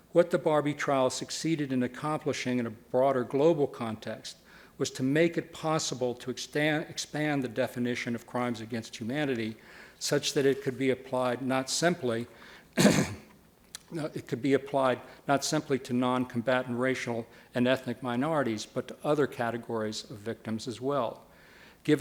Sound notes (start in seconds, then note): 12.7 clears throat